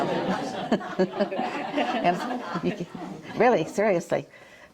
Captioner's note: all laughing